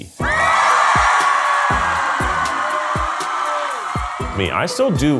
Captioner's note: crowd cheering